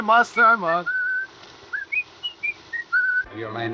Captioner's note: man whistling